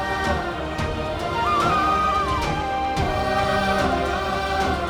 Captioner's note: emotional vocalising